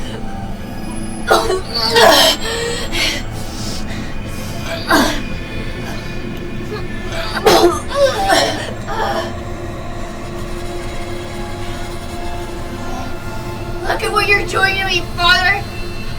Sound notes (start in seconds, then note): 1.2 vomiting; 4.6 grunting; 6.3 vomiting; 10.5 dramatic music